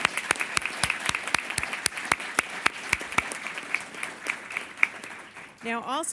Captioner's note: applause